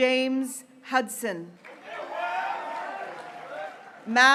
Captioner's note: graduates cheering